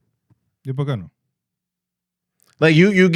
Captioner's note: speaking In Foreign Language